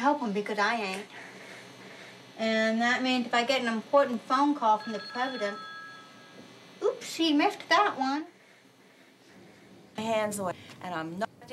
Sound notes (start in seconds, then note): 4.6 phone rings; 10.0 garbled, distorted voice